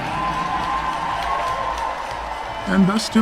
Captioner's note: crowd cheering